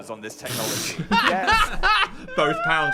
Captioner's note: both chuckling